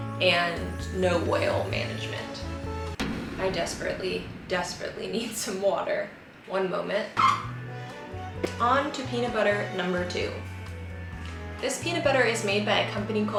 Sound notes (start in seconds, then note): 7.1 refrigerator squeaks